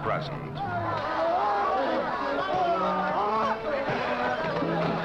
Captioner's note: men shouting